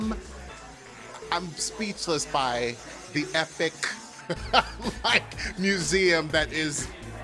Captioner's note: laughs